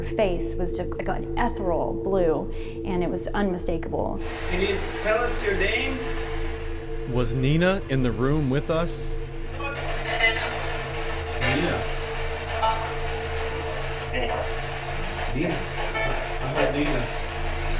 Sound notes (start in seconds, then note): 7.4 voiceover